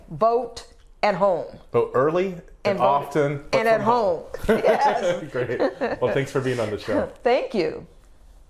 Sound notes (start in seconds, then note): 4.4 laughing